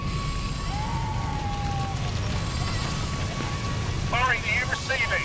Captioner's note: woman wailing